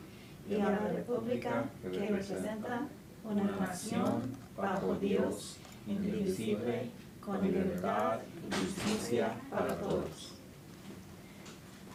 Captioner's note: speaking spanish